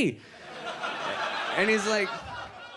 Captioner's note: audience laughs